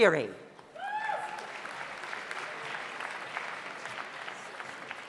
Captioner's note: audience applauds